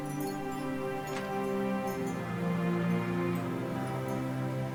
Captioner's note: chimes jingling; door clicking